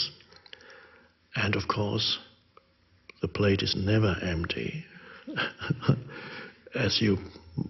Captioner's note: chuckles